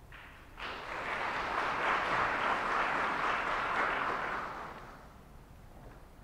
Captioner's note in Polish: oklaski